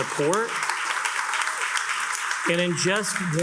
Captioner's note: attendees applauding